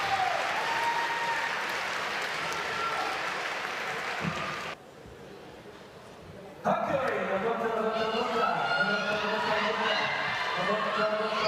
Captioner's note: applause